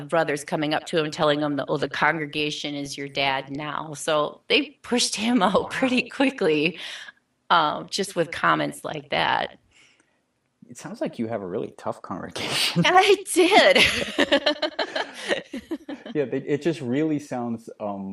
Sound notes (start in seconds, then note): 13.4 laughing